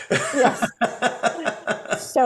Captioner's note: laughs